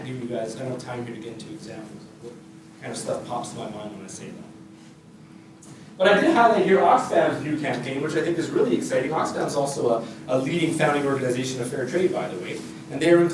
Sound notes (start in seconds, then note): none